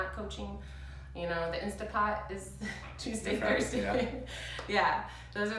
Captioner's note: laughs